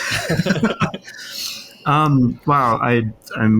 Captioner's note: all laughs